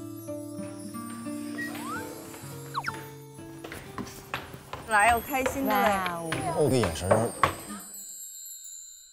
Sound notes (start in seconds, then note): 5.1 jovial steps